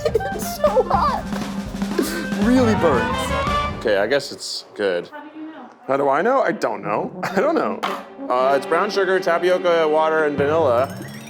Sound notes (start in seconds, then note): 0.0 laughter; 0.0 laughing; 7.2 laughs